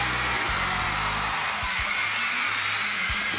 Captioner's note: crowd cheering